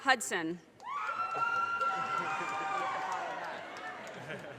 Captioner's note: audience cheers and applause